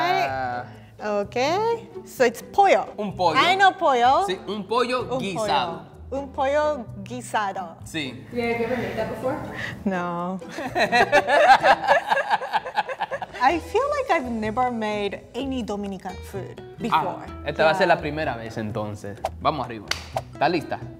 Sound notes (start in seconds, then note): 2.8 speaking in foreign language; 4.8 speaking in foreign language; 10.5 laughing; 17.0 speaking in foreign language